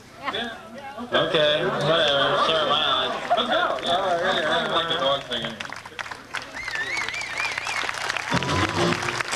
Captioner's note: crowd mumbles